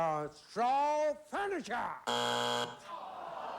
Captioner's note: buzzer